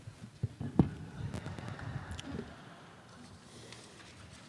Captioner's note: audience laughs